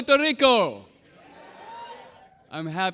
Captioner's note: audience cheering